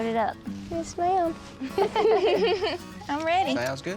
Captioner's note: giggling